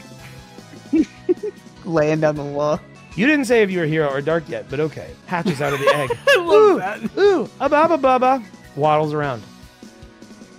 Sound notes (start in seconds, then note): 5.4 laughs